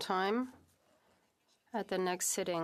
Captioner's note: speaking French